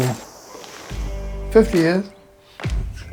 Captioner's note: laughs